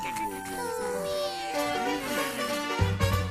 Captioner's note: little Cats meowing; Little Cats snoring